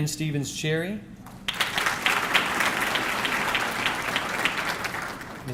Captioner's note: audience clapping